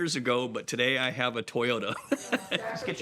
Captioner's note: laughs